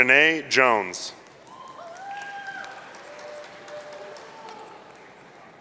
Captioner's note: audience cheering